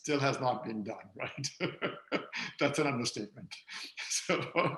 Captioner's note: laughs